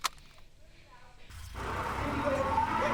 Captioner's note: on phone